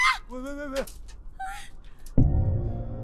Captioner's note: Ui-joo’s worried breathing; Yong-nam’s trembling breaths